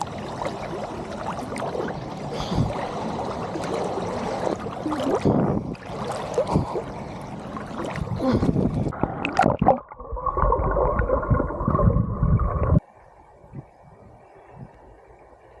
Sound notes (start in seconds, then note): 4.5 uncomfortable breathing